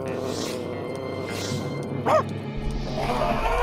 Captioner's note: barks; suspenseful music